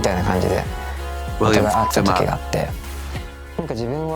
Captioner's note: beep